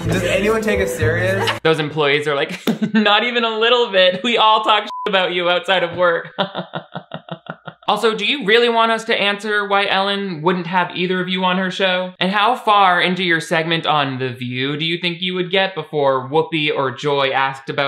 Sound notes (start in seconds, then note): 4.8 beep; 6.1 laughs